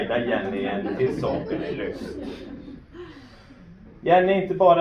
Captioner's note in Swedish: Skratt